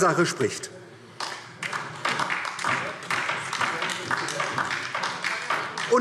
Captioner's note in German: Beifall DIE LINKE und vereinzelt SPD